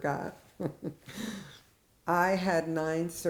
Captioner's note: laughs